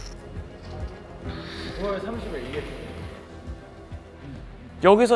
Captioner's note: sighing deeply